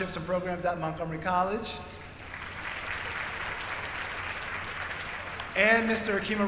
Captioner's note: applause